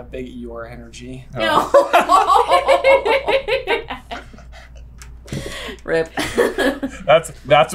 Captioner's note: team laughter